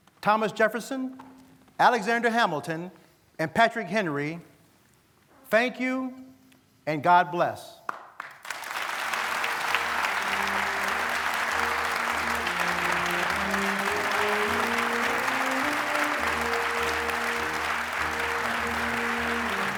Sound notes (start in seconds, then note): 9.2 applause